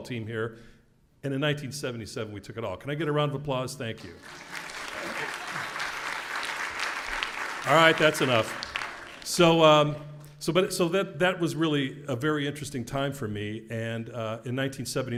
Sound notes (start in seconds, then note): 4.0 applause